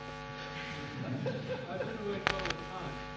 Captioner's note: laughter